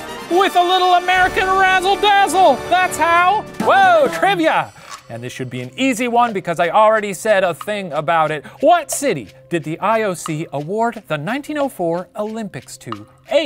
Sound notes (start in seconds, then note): none